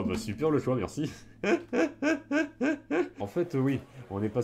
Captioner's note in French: Rires